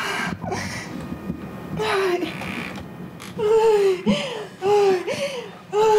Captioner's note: breathing, moaning